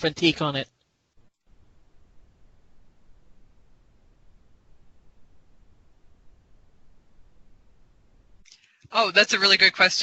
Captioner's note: silence